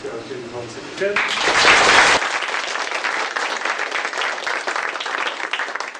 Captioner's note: applause